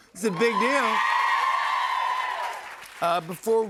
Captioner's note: cheers and applause